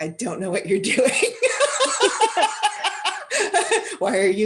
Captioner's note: laughter